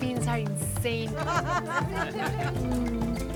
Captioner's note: laughter